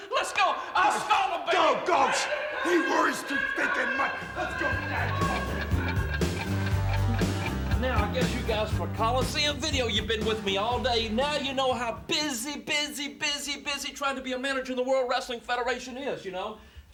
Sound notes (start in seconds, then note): 5.6 clock ticking; 5.6 rock music